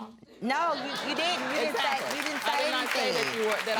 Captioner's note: audience laughs